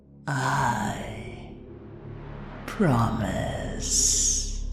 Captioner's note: echoing